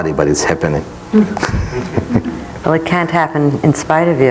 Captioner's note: soft laughs